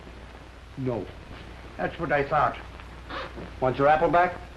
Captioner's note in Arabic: none